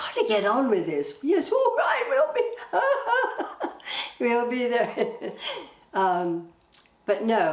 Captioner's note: laughing